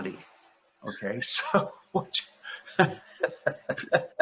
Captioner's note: laughs